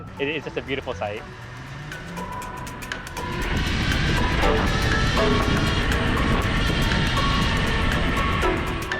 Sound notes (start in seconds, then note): 1.5 engine revving; 1.5 gentle upbeat music